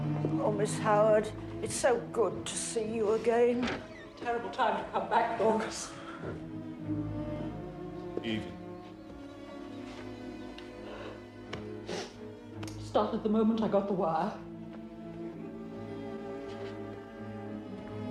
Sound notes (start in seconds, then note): 11.7 sniffles